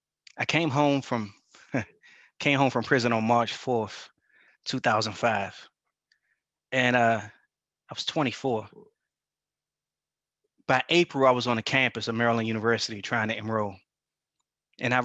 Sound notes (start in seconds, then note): 1.6 chuckles